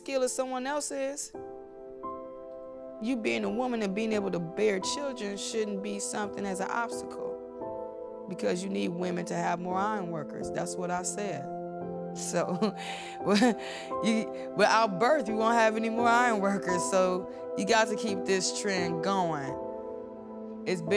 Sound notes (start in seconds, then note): 12.4 woman laughs